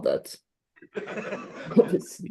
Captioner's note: laughter